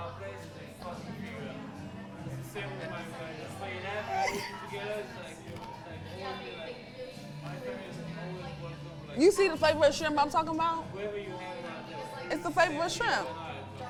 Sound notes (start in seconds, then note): 1.5 bar chattering; 1.5 chewing